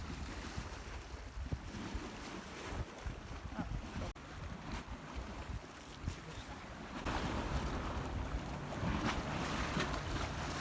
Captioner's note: lots of water splashing sounds